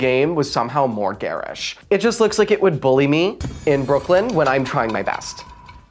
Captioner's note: shade noise